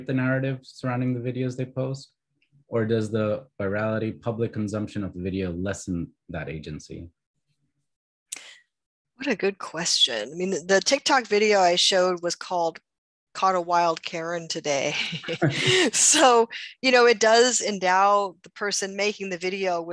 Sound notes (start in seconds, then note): 14.9 both laughs